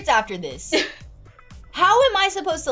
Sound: laughs

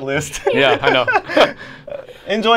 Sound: both laugh

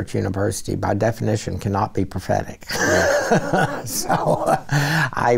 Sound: laughs

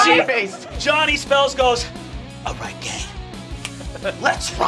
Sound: snaps

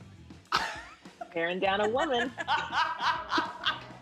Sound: laughter

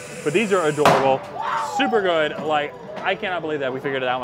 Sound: none

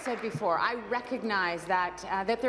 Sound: applause

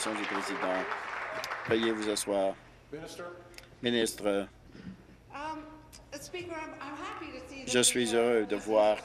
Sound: some Applause

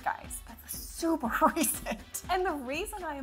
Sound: laughs

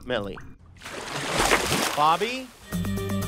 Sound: splashing; upbeat music

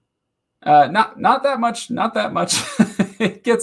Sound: laughing

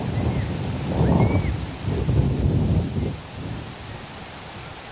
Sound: distant whistling

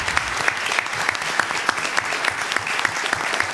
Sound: applause

